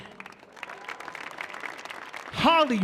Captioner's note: audience applauding